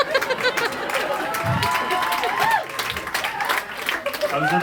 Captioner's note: applause